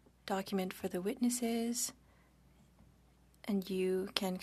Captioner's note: speaking French